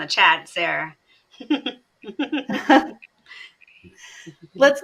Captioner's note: chuckles